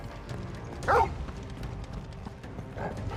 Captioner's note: bark